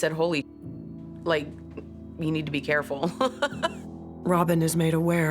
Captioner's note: laughs